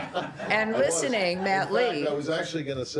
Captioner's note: laughter